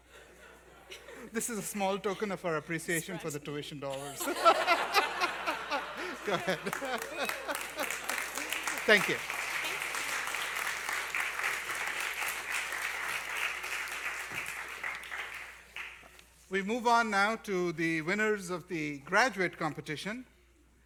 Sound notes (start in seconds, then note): 11.1 applause